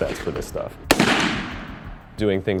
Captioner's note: gunshot